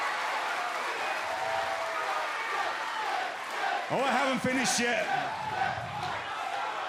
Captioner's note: crowd cheering